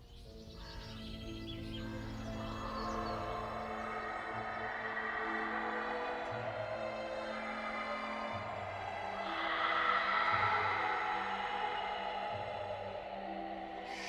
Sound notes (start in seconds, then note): 0.0 birds chirping; 3.6 screaming echoing